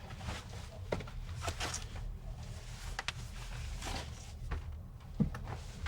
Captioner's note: clothes rustling